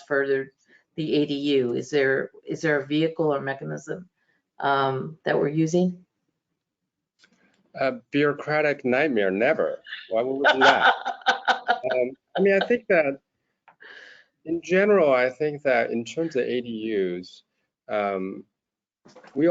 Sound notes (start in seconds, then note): 10.2 laughter